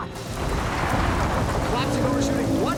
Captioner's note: thunder rumbles